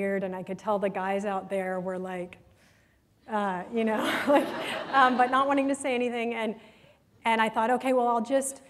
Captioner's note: laughter